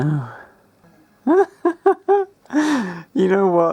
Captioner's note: titters like a drunken rat